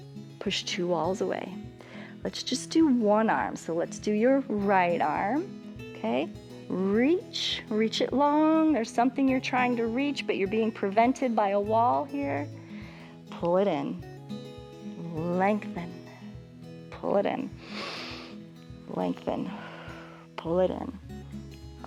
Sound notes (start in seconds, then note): 17.6 exhales; 17.6 inhales